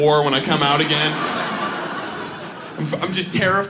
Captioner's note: audience laughs